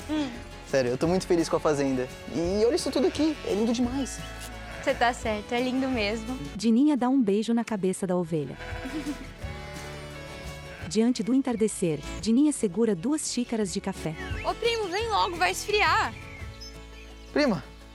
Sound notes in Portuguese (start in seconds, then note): 5.9 Balidos; 10.5 Pássaros